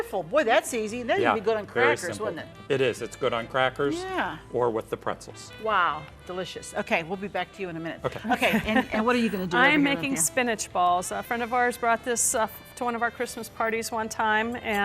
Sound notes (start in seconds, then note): 8.1 laughs